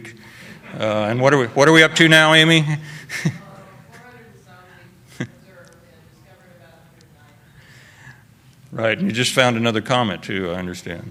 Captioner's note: laughter